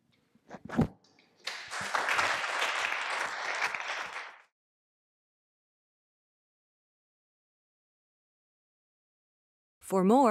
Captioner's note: applause